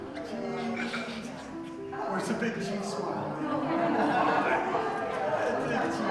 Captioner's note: gentle piano music; people chattering